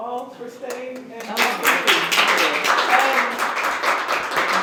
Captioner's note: applause